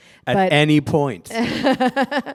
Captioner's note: laughter